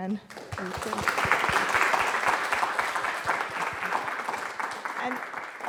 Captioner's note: applause